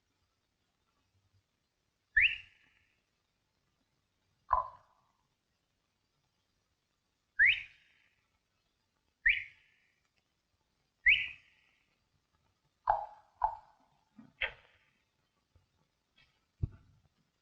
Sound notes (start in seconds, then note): 2.1 whistling; 4.5 tongue clicking; 7.4 whistling; 13.4 tongue clicking